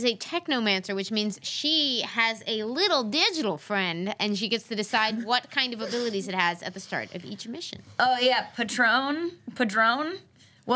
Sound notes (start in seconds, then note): none